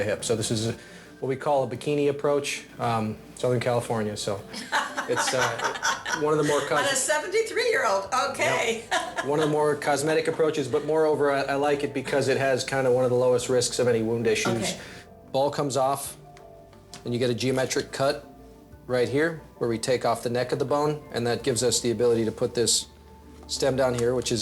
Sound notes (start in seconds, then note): 4.5 laughing; 8.1 laughing